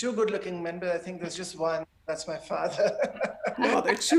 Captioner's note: laughs